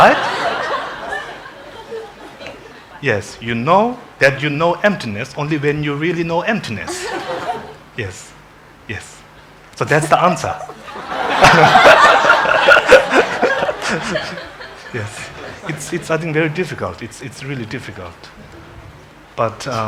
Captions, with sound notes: (congregation laughing) Yes, you know that you know emptiness, only when you really know emptiness. Yes, yes. So that's the answer. (congregation laughing) Yes, it's very difficult, it's really difficult.